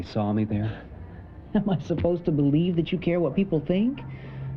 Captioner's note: chuckles